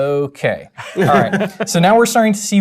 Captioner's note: laugh